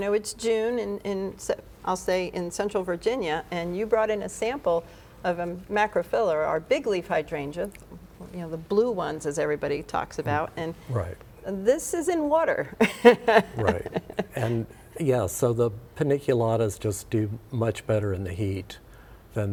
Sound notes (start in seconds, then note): 12.8 laughs